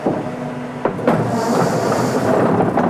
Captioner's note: rattling